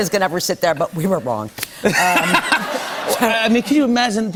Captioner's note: laughter